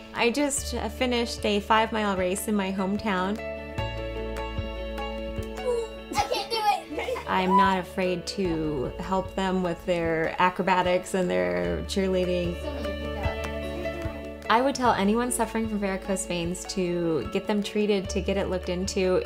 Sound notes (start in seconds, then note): 6.1 family giggles